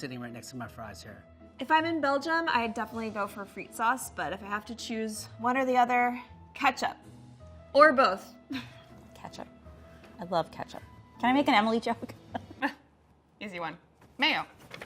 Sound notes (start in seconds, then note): 8.5 laughs; 12.5 laughs